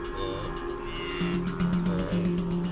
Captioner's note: animals calling